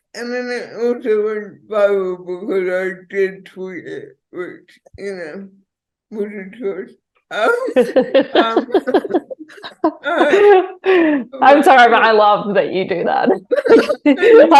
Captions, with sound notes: And then it also went viral because I did tweet it, which you know was a choice. (both laughing) - I'm sorry, but I love that you do that.